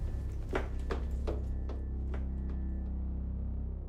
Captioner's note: footsteps tap